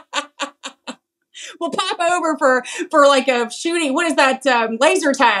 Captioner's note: laugh